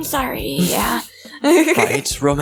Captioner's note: laughs